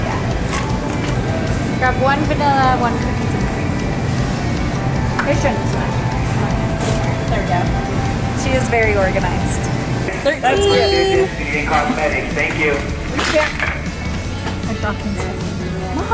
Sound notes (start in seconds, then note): 6.2 murmurs; 13.2 plastic containers crinkling